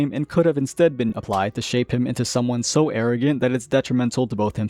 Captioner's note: slap